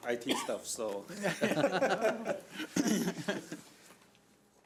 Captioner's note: laughing